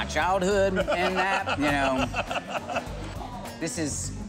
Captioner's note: laughing